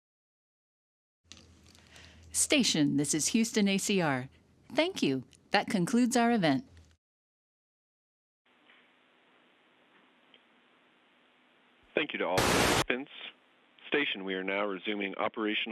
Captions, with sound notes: >> Station, this is Houston ACR. Thank you. That concludes our event. >> Thank you to-- [ static ] Station, we are now resuming operational